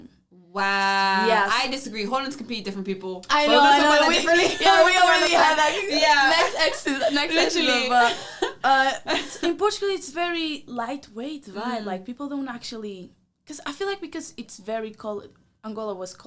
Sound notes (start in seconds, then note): 3.3 laughing; 3.6 both laugh